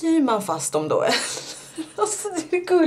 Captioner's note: laughs